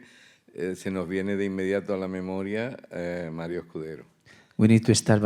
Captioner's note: speaking in Spanish